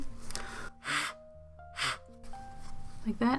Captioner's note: breath blowing sharply